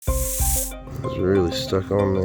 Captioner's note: hissing